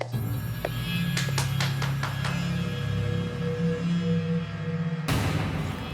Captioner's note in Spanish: palmadas